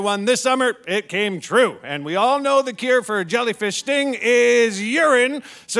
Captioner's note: none